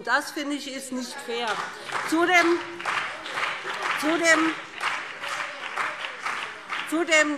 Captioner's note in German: Beifall BÜNDNIS 90/DIE GRÜNEN und CDU - Widerspruch SPD